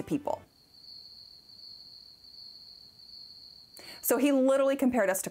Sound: crickets

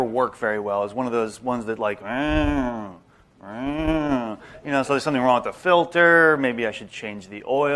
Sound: sound effect

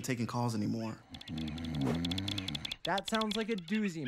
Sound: continuous typing

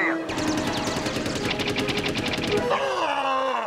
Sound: jet firing

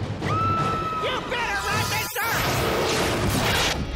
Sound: screams

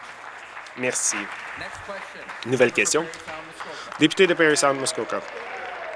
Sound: applause

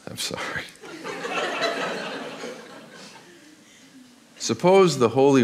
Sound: audience laughs

